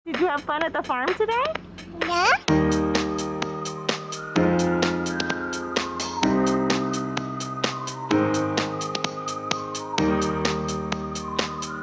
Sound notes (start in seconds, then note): 2.0 baby babbling; 2.6 upbeat whistling music